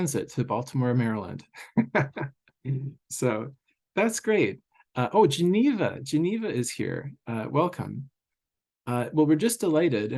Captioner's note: laughs